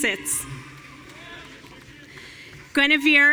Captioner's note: audience cheering